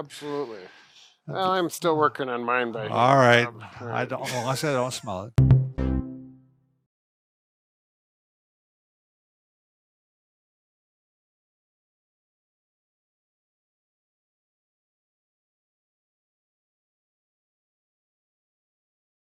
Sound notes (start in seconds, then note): 4.2 chuckles; 5.4 upbeat music playing